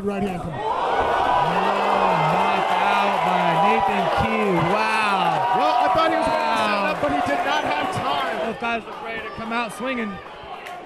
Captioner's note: crowd cheering